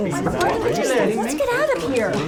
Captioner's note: group chattering